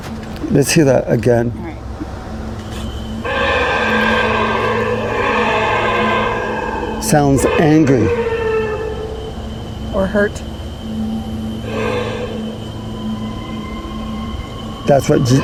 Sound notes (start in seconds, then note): 3.2 creatures roaring; 3.5 eerie music; 8.4 creature howling; 11.6 creatures roaring; 12.0 eerie music